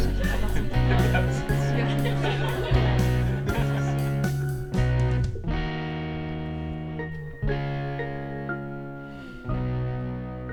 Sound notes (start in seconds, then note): 9.1 sigh